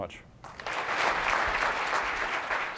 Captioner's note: applause